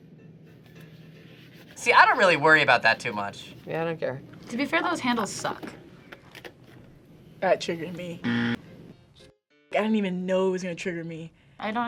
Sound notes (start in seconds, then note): 8.2 buzzer rings